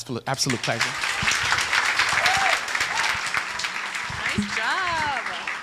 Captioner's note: audience applauding